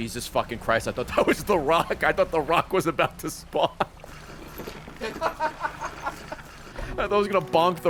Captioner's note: laughs